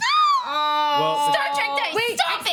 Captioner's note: shouting